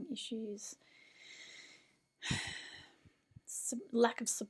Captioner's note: existential sigh